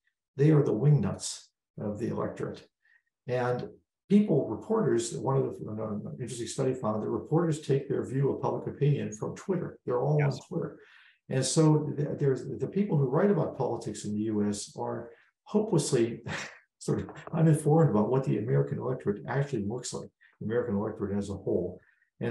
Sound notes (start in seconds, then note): 15.7 laugh